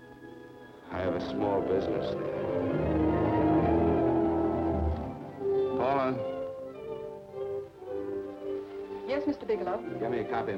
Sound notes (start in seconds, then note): none